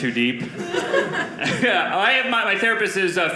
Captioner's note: audience laughing